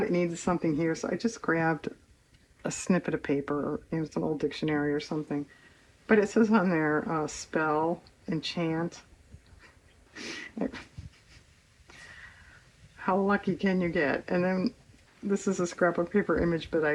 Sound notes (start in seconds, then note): 10.1 laughs